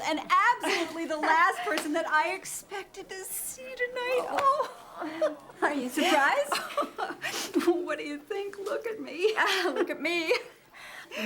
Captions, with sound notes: and absolutely the last person that I expected to see tonight. Oh! (LAUGHS) Are you surprised? (LAUGHS) What do you think? Look at me. Look at me.